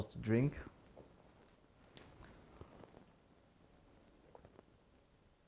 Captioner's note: drinking